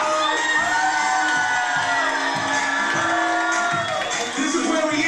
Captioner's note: crowd applauding